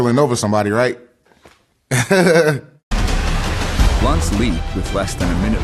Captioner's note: laughs